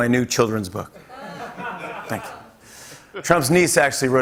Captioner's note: laughter